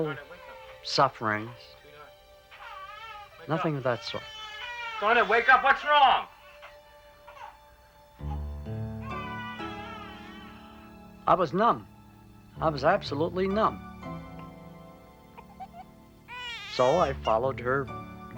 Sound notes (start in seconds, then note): 5.9 baby crying